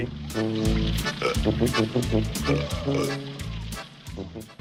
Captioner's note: burping